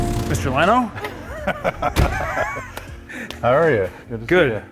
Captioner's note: laughs